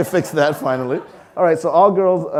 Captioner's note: audience laughing